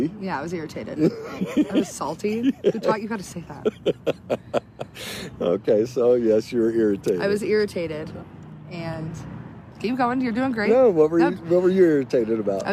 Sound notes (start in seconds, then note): 1.0 laughs